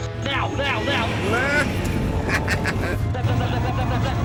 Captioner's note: jeremy cackles